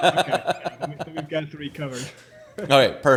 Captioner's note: laughs